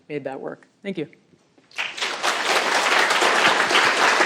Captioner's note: applause